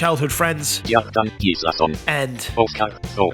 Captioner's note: computerized Voice